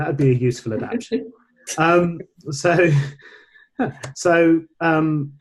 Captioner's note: laughing